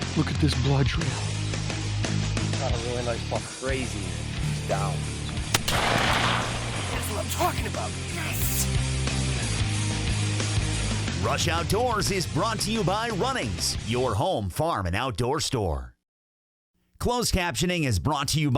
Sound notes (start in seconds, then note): 5.5 gun shot fires; 9.0 upbeat music